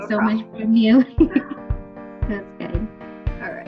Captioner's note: laughs